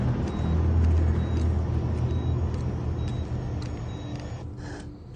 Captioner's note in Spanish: Sonido de la telemetría